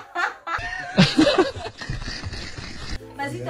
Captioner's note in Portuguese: Risos